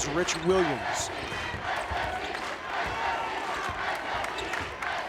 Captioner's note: crowd chants